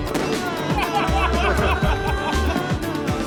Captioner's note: laughter